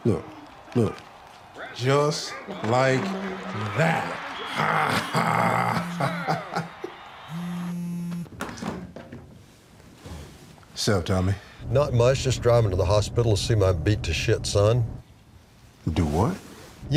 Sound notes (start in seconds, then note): 2.8 laughs; 7.3 phone vibrates